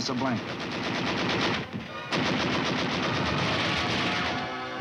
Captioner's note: guns firing